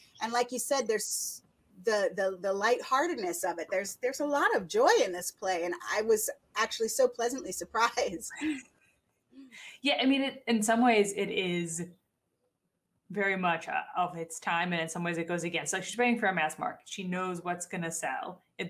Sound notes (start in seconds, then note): 8.3 chuckles